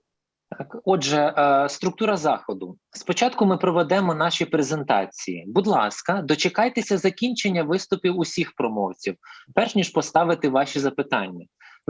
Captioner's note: foreign Language